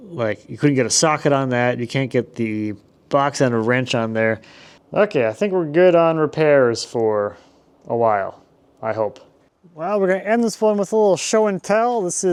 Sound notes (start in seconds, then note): none